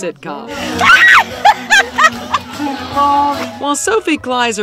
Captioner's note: women scream and laugh